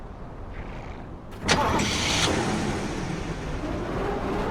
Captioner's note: car door closing